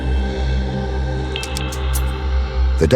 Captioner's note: logo ticks